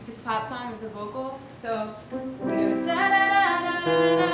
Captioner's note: hums melody